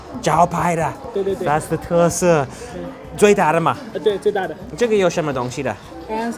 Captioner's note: foreign language